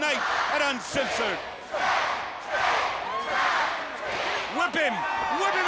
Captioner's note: crowd cheering